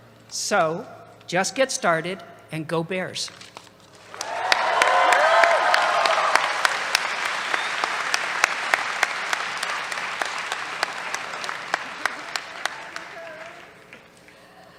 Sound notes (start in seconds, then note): 3.7 cheers, applause